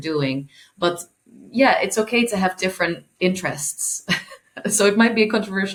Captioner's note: laughing